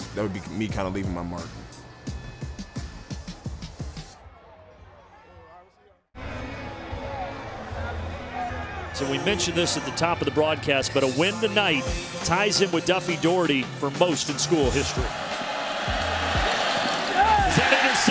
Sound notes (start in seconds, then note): 14.1 crowd cheering